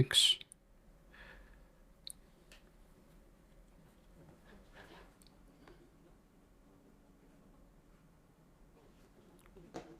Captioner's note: silence